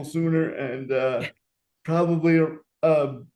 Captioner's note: laughing